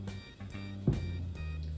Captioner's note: thud